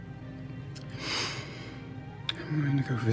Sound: deep breath

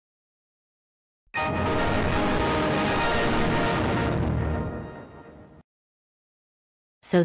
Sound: Windows Server 2003.EXE Startup Sound

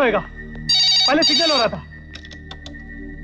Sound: phone ringing

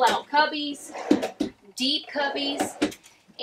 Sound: drawer sliding open

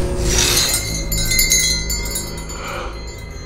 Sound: jingling; gasps

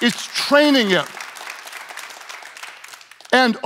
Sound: audience clapping

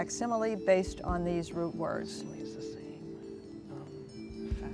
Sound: whispering

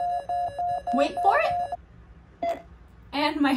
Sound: beeping getting faster; beeping slows down back to normal heart rate

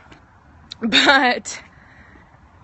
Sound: laughs

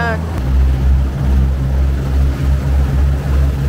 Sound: boat engine revving

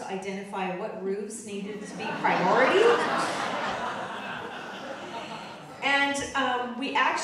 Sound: audience laughing

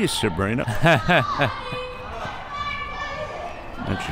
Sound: laughs

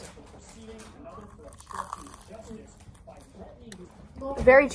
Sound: CRunCH

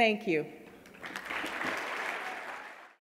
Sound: audience clapping

